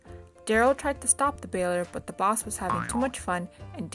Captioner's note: spring bounces